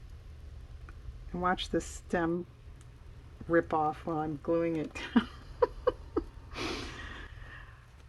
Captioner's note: laughs